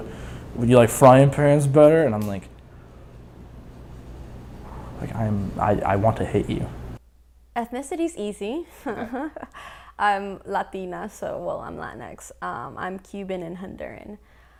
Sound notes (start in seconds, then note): 0.1 blustery voice; 4.6 breathes; 8.8 laughing